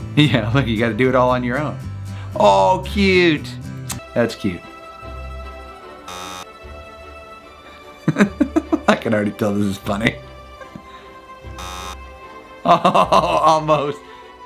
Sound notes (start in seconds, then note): 6.0 buzzer buzzing; 6.1 laughing; 11.5 buzzer buzzing